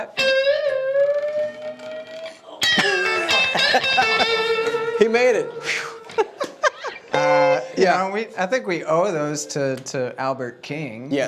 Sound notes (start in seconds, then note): 0.2 guitar music; 1.8 laughing